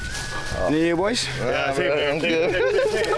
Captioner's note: mutters